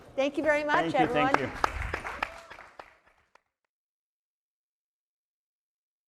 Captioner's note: audience applauding